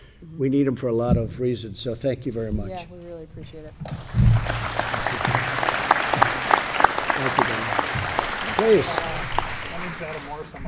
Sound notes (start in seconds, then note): 3.8 applause